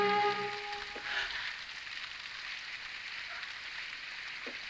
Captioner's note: dramatic music continues; rain pattering